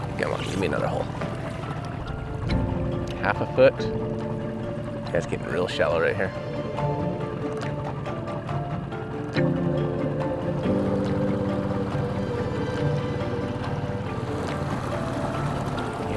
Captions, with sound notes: Come on, gimme another hole. Half a foot. That's getting real shallow right here. (pensive music continues) (boat engine droning)